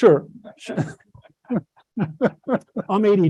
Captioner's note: laughter